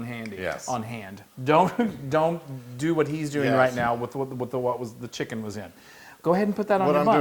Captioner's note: laugh